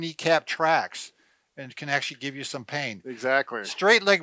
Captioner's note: chuckling